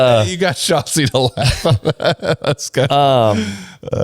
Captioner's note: laughs